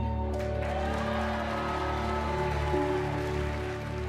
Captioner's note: cheers and applause